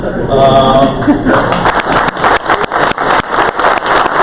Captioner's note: crowd applause